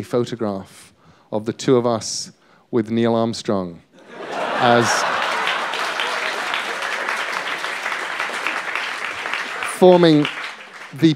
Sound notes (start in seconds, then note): 4.0 laughter